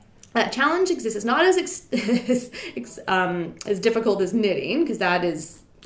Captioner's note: laughing